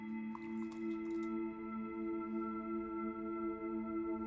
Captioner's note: spoon clanging; milk splashing